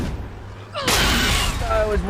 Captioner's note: metal shatters